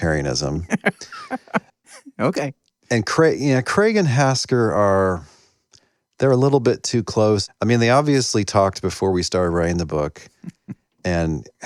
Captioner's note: laughs